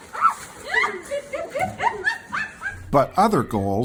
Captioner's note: students and teachers laughing